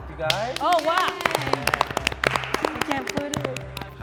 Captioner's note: applause